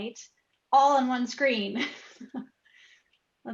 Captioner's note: chuckles